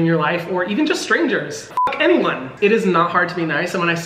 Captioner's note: beep